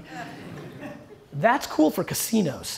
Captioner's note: audience laughter